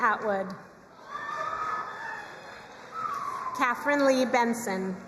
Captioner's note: crowd cheering and applauding